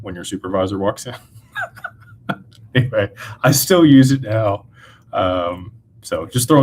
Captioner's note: laughter